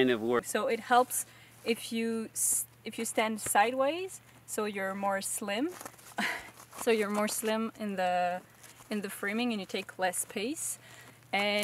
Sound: laugh

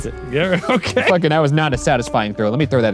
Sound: laughing

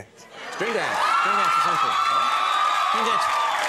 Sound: crowd cheering

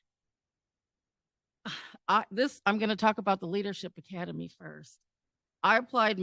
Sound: sigh

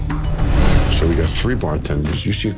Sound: dramatic music; transition whooshes

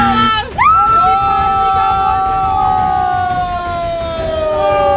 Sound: buzzer; group screams

